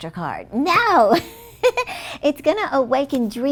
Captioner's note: chuckles